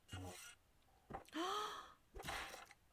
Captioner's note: gasp